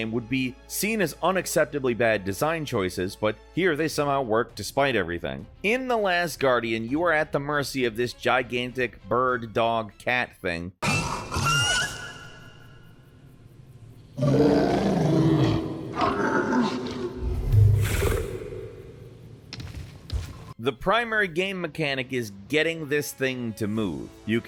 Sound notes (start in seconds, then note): 10.8 Trico screeching; 14.1 Trico growling